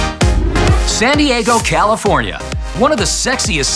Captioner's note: upbeat music; voiceover